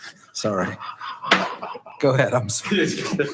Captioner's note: quiet chuckling